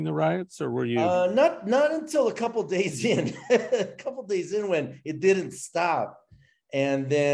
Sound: chuckles

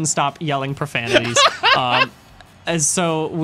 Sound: laughing

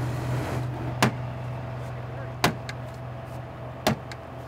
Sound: hammer thumping

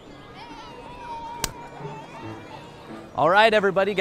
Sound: hands slap

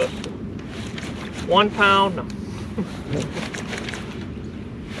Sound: snickers

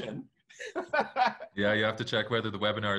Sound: laughs

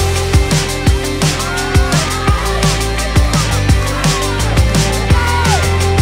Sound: shouts of encouragement

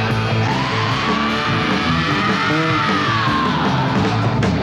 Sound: shrieking yell

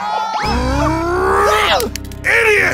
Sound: grumbles

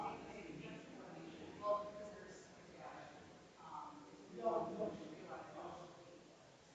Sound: people chattering distantly continues

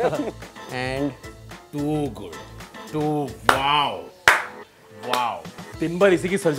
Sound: claps

